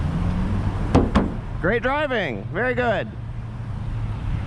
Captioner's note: slap slap